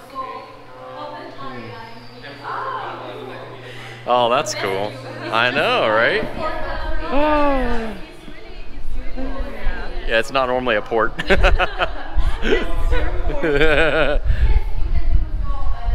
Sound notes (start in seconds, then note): 11.2 laughs